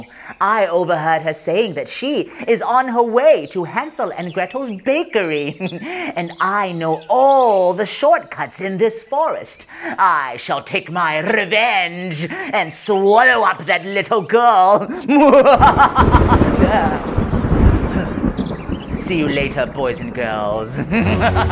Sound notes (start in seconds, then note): 15.3 roll of thunder